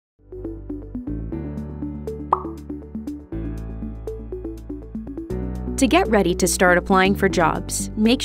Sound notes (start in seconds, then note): 0.2 mellow music; 2.3 bubble popping